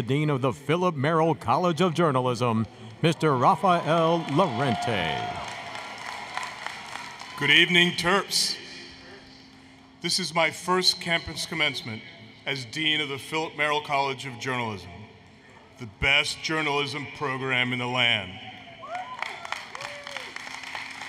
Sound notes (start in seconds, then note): 5.5 applause, Cheering; 18.8 applause, Cheering